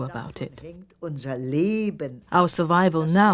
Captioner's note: speaking german